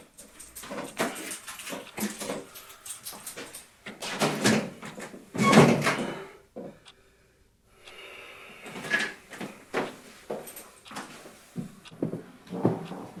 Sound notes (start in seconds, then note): 3.4 door clicks shut